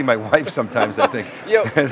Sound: laughing

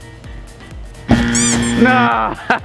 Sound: buzzer ringing

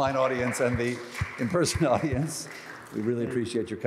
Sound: applause

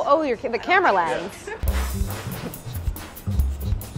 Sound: air puffing

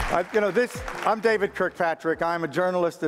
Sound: applause

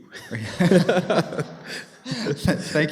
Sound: laughter

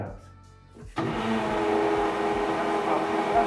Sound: blender mixing

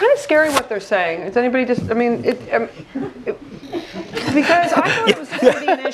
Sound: laugh

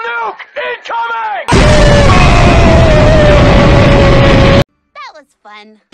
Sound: explosion

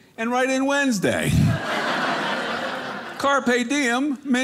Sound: audience laughing

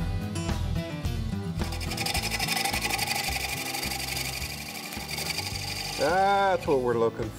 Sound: chisel scrapes

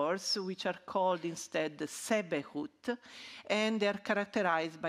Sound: speaking ancient Egyptian

